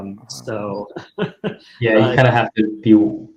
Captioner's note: speaker laughing